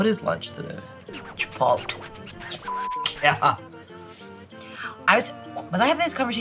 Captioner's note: beep